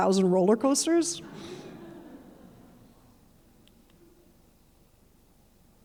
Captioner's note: audience laughing